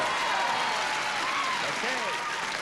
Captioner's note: cheers and applause